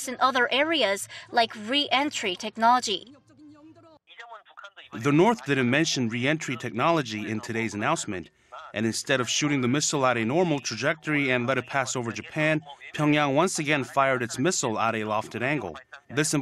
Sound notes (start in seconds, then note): 3.3 Korean